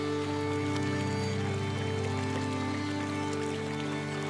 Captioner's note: water rushing